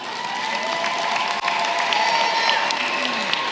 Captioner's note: applause